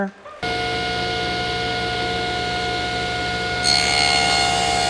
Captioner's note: machine humming